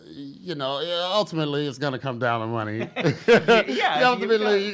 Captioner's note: laughs